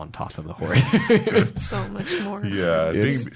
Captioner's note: laughs